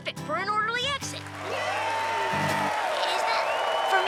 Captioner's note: applause